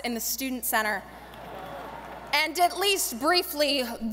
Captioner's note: audience laughing